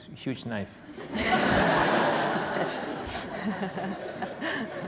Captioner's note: laughter